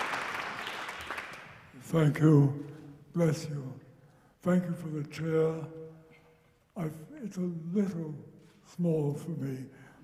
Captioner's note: applause